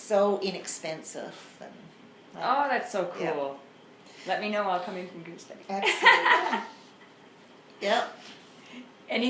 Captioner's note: laughs